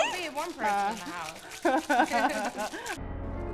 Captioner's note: laughs